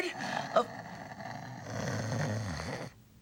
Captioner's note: snores